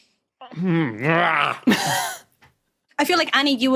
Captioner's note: wheezes